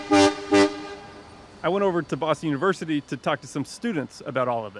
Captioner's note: truck horn honking